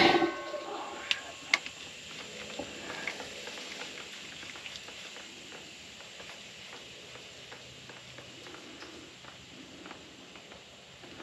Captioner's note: transmission fluid dripping sound